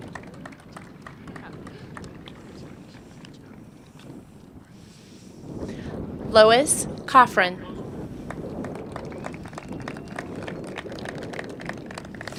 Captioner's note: applause